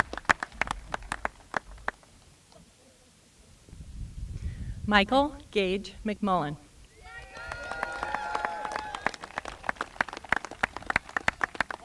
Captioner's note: applause